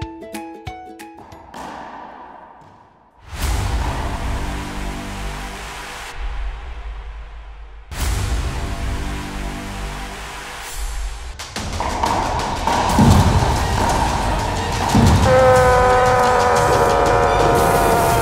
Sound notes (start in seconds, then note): 11.8 racquetballs ricocheting; 15.0 roaring